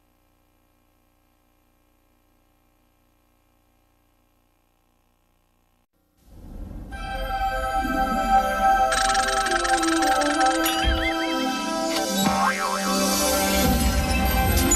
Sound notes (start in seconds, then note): 6.9 wondrous fanfare plays; 8.9 gears grinding